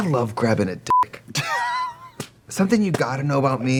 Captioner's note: Katya laughs